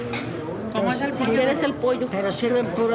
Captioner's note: restaurant ambience background